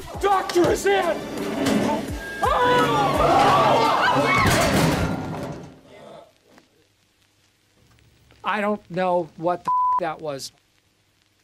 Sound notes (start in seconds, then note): 2.2 screaming; 4.0 crash